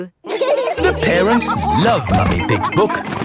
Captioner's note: all laughing